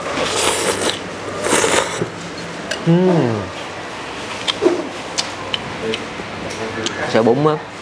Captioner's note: slurping